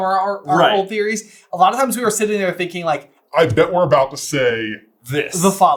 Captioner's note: modified voice